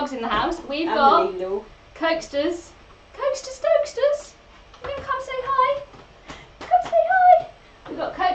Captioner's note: higher pitch